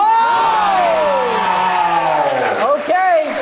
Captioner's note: audience cheers